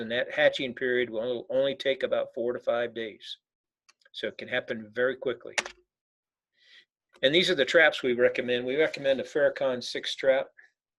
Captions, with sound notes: And that hatching period will only take about four to five days. So it can happen very quickly. (keyboard clicking) And these are the traps we recommend. We recommend the pherocon six strap